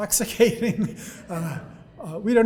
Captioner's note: audience laughing